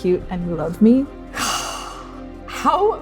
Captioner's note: exhaling